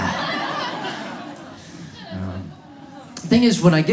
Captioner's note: audience laughs